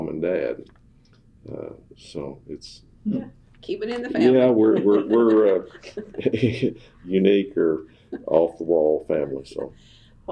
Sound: laughs

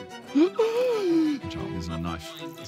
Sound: gasps

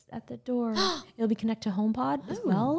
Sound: gasps

